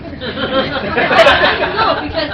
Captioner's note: laughter